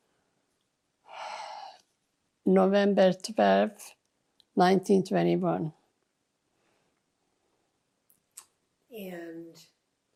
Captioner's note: sighing